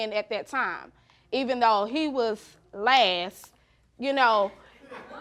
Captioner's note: audience snickering